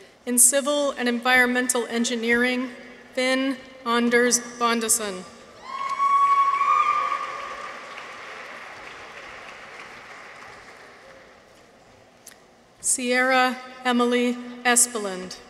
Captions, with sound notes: In Civil and Environmental Engineering. Finn Anders Bondeson. -(people cheer) -(audience applauds) Sierra Emma-Leigh Espeland.